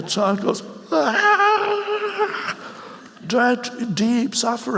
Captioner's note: wailing loudly